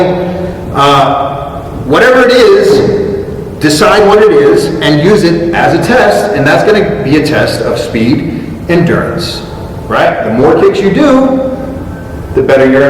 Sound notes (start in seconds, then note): none